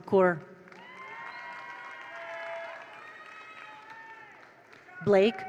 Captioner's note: attendees applaud; attendees cheer